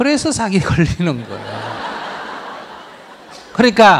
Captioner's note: audience laughter